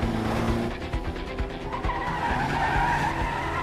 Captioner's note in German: quietschende reifen